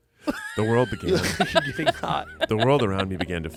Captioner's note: everyone laughs